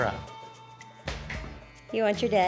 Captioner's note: claps hands